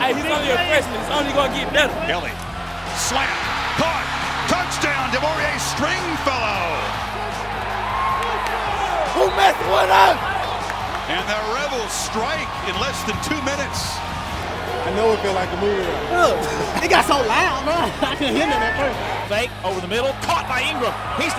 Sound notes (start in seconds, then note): 7.0 crowd cheering; 15.9 players laughing